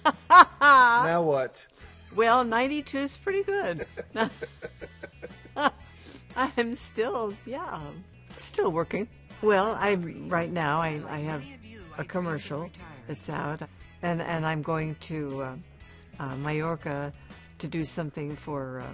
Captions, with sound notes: Ha ha ha ha! -Now what? -Well, 92's pretty good. [both laughing] I'm still, yeah, I'm still working. Well, right now, I have a commercial that's out, and I'm going to, uh, Majorca